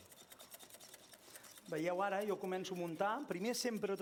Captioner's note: non-english speech